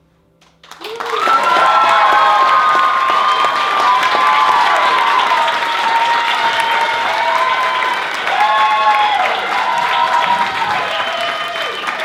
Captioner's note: applause